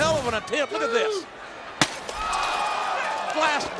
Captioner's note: glass shattering